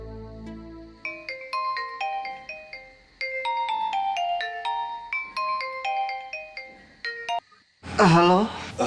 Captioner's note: phone ringing